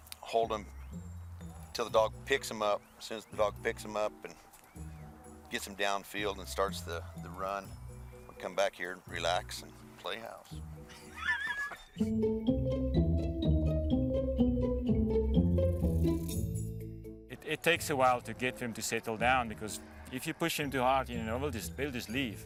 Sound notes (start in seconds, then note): 10.8 laughs; 12.2 playful instrumental music